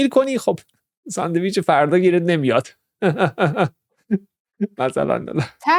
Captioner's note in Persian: خنده